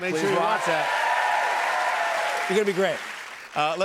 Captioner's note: cheers and applause